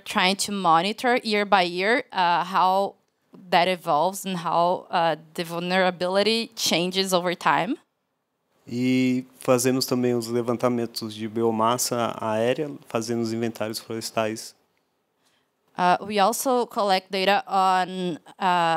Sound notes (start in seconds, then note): 9.3 non-english speech